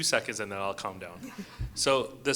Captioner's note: audience chuckles